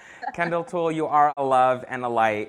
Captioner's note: laughs